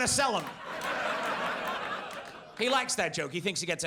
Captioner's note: audience laughs